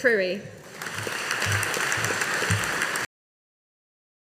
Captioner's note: audience applauding